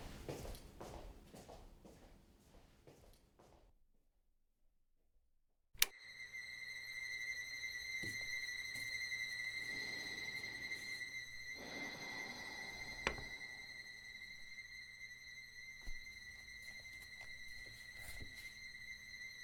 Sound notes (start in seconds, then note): 5.8 light switch clicks on; 6.7 high-pitched eerie dissonant tones